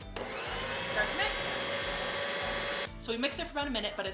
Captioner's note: mixer revs